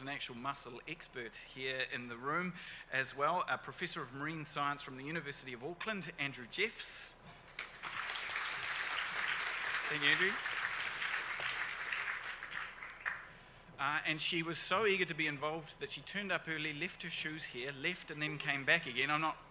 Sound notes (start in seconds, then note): 7.5 audience applauds